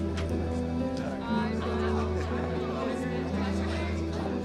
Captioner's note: indistinct chatter and laughter